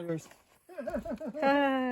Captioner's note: he laughs manically